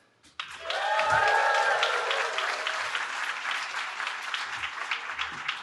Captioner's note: cheering